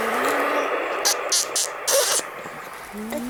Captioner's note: kissing sound